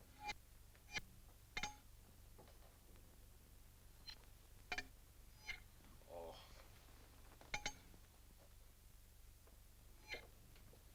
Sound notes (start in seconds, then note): 0.2 magnets clink; 4.6 magnets clink